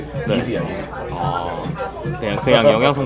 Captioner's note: laughs